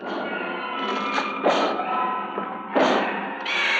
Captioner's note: pounding on door